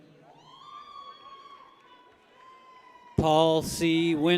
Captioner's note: people cheer